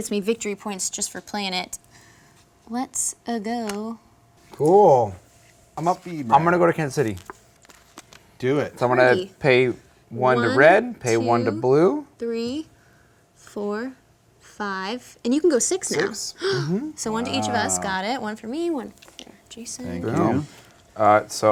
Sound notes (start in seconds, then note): 16.4 gasps